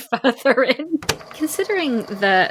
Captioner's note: tape recorder clicks on